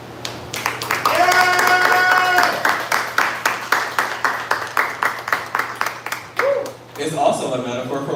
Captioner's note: applause